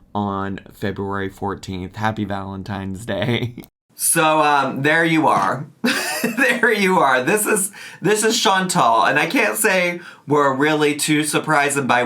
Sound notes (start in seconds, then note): 3.2 chuckles; 5.8 chuckles